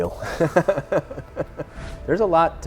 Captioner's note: laughs